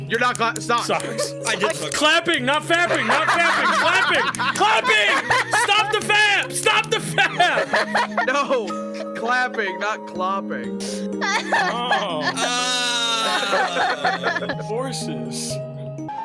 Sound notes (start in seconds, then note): 7.4 laughs; 11.2 laughs